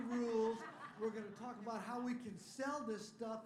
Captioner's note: laughter